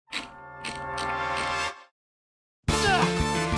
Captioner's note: wheel clicks; grunts